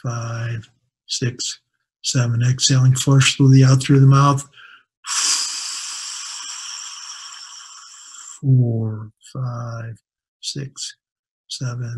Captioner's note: exhaling